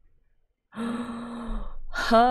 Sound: gasps

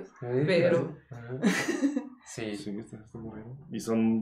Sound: laughing in agreement

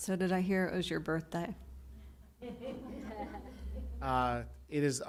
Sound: laughter

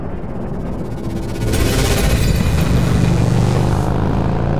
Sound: time travel sounds

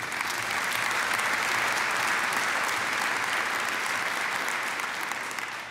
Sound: applause

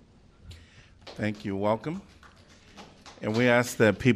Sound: applause

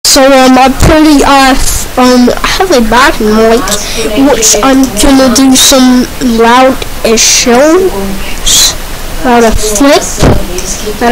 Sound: loud flipping n00ises uwu

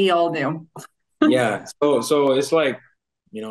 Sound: chuckles

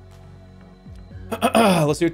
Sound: clears throat

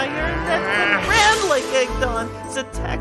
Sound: sizzle

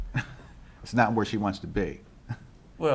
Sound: laughs

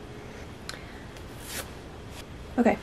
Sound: friiiip

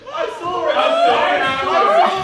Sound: laughing

